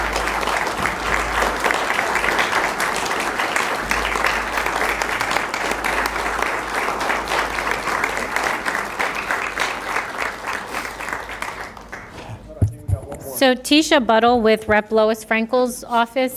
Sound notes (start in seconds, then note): 2.6 applause